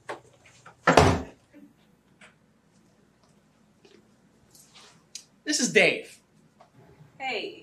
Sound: door closing

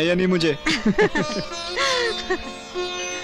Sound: laughing

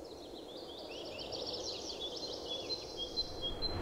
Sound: birds chirping

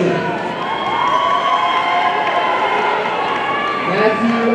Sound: audience cheering

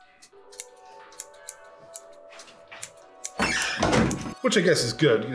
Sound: scissors snipping

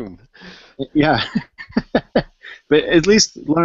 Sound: laughs

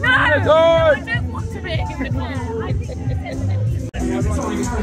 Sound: announcer talking

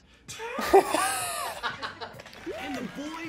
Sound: laughs

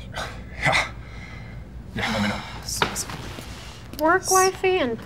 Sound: laughs

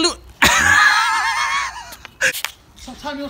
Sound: laughing

